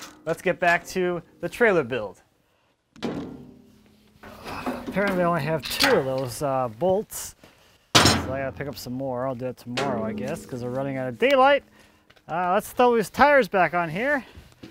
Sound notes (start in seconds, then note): 4.0 clunks